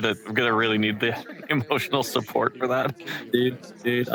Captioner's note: laughs